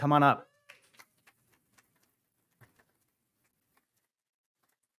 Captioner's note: hands clapping